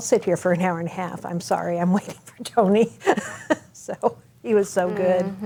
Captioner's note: chuckles